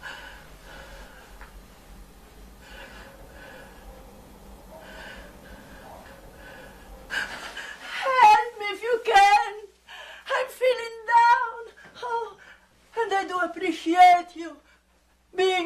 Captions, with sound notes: [woman breathing heavily] - [woman shouting] Help me if you can! I'm feeling down! Oh, and I do appreciate you being around.